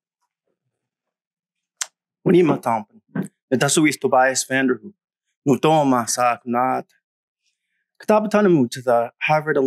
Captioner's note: greeting in Wompanoag